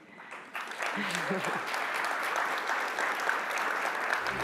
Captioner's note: audience applauding